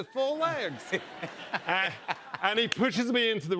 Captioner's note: laughter